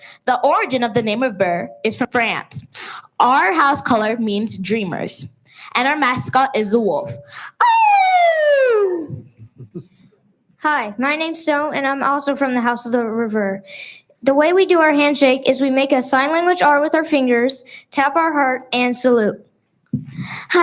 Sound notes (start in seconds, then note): 8.3 loud wolf-like howling; 13.1 speaks foreign language